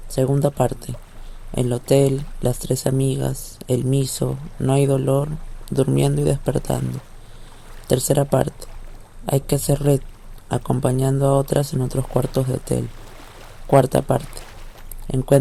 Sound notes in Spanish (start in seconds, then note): 1.1 sonidos de agua, imágenes calle & voz en off masculina